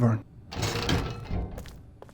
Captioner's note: door opens